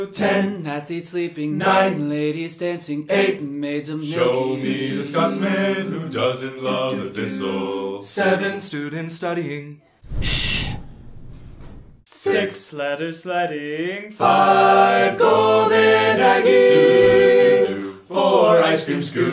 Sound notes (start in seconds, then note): 10.2 shush